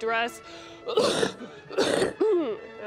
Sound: coughing

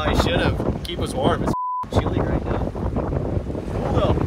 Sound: beep

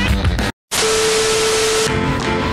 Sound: distorted static and tone sound effects

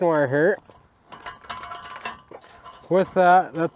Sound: metal clangs

